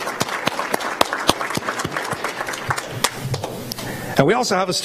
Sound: applause

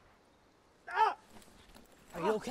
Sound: yelling

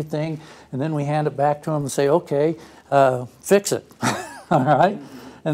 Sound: laugh

